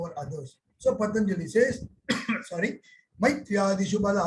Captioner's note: coughing